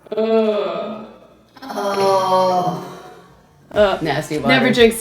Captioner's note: slow motion groaning